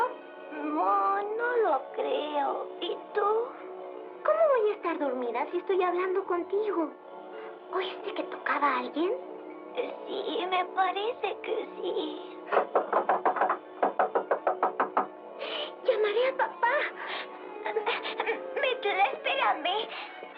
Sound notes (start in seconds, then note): 11.7 doorknob Rattling; 12.5 Knocking